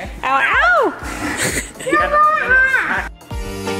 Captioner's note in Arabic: الكل يضحك; صرير; موسيقى رقص إلكترونية